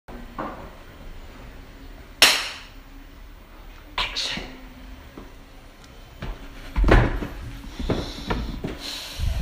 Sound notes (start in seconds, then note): 2.0 claps